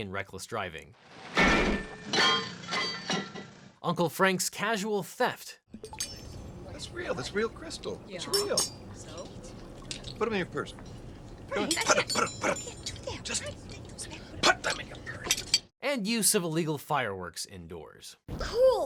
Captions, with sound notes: and reckless driving. (statue clatters) Uncle Frank's casual theft. - That's real, that's real crystal, that's real. Put them in your purse. - Frank! - Put them, put them, put them. - We can't do that. - Put them in your purse. - And use of illegal fireworks indoors.